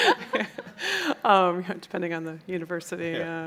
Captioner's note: chuckles